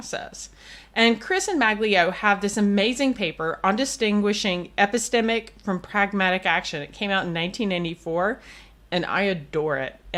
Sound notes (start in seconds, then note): none